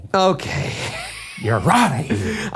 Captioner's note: laughing